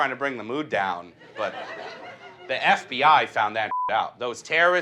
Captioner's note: beep